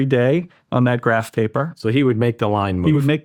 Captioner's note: laughs